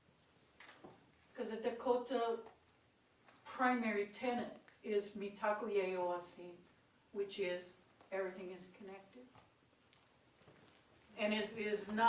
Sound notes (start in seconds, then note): 4.7 speaking own language